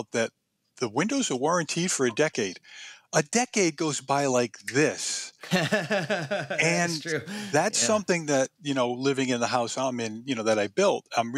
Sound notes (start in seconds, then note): 5.4 laughs